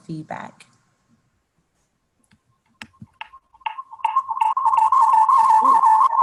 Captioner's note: audio recording feedback